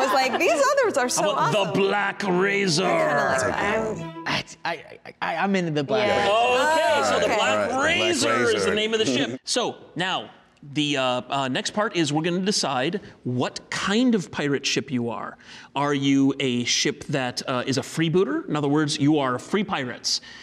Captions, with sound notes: I was like these others are so awesome. - I want the Black Razor. - I kind of like that. - I'm in with the Black Razor. (shouting) - Okay, so the Black Razor is the name of the ship. So now, the next part is we're gonna decide, what kind of pirate ship you are. Are you a ship that, is a freebooter? In other words you are free pirates.